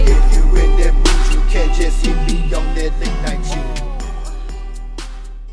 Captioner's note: ohh